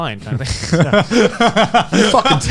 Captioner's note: Joey and Garnt laughing